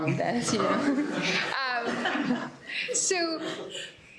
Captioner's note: laughter